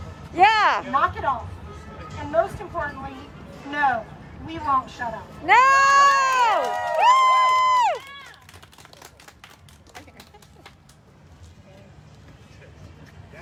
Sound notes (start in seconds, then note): 9.5 cheering